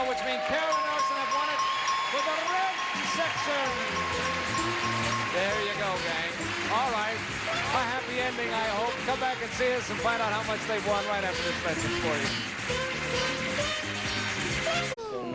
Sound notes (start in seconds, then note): 2.9 audience applauds; 12.7 theme music